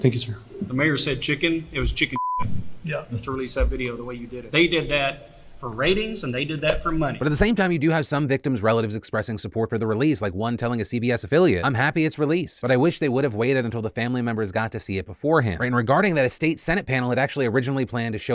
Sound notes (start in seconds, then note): 2.1 beep